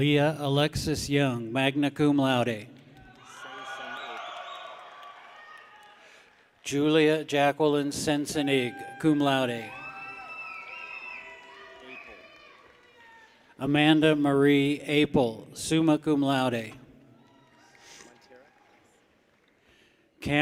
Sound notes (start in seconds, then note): 2.9 people cheer; 9.6 people whistle; 11.2 people cheer; 17.1 people cheer